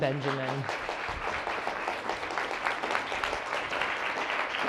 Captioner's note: audience applauding